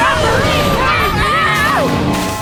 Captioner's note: screaming